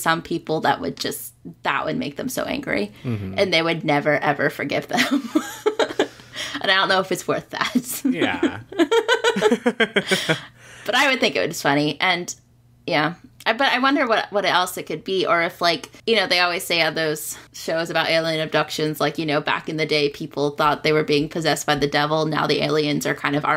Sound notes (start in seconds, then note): 8.0 laughs